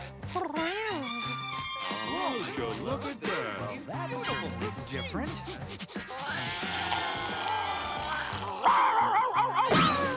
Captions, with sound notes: [purrs] Would you look at that! [sniffs] [hisses] [barks]